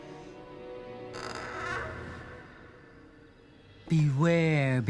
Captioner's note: door creaks